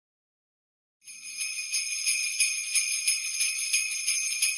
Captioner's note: bells jingling